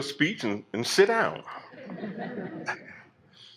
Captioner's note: laughter